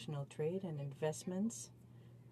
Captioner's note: speaking in french